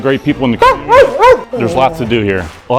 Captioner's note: dog barks